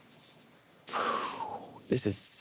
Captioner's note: exhale